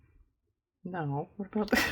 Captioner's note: laughs